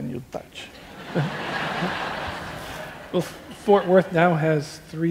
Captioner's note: laughing